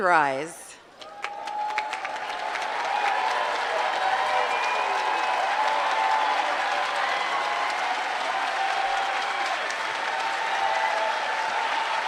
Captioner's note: applause